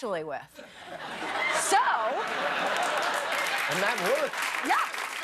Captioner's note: laughter